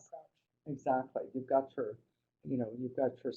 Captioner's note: voiceover